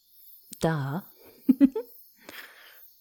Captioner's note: murmurs a quiet laugh